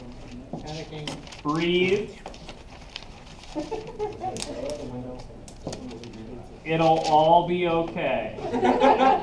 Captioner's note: laughing